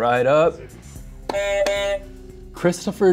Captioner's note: buzzer sounds